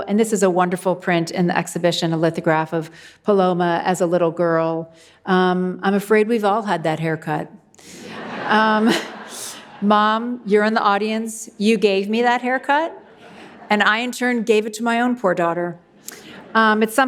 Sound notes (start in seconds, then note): 8.0 audience laughs